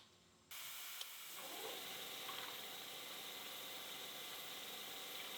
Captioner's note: machinery whirring